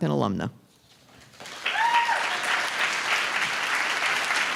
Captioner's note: applause